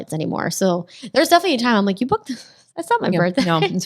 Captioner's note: laughs